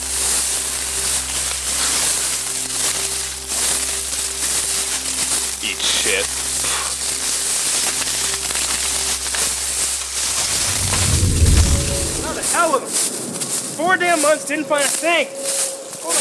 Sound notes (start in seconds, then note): 0.3 leaves rustling; 6.5 leaves rustling; 10.8 suspense music